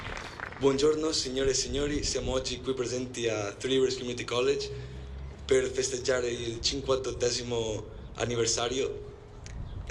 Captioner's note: applause; in Italian